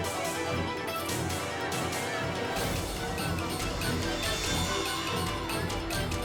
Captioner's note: dramatic music; bystanders chattering